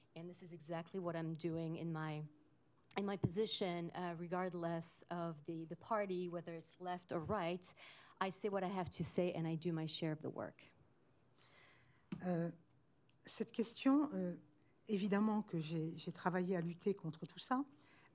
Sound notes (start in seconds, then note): 13.0 speaking french